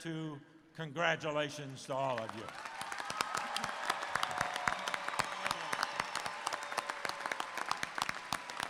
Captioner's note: cheers and Applause